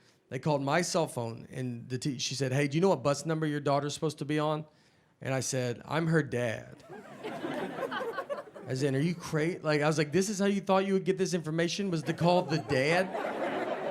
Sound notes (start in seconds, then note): 6.8 audience laughing